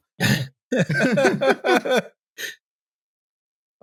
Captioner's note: laughter